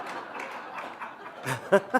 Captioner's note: laughter